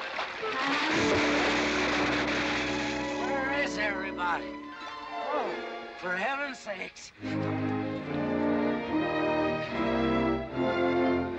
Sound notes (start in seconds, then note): 0.0 splash